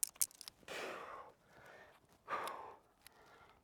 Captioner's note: breathing heavily